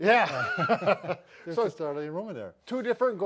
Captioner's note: laughing